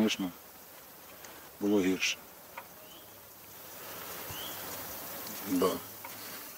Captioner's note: sound of woods